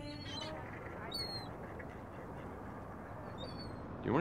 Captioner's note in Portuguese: gaivotas chorando